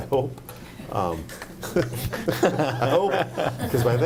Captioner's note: group laughing